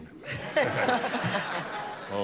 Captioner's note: laughter